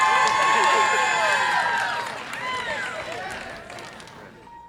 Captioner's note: audience applause and cheer